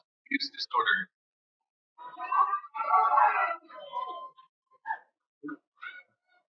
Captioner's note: cheering